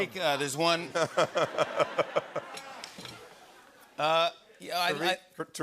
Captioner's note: laughter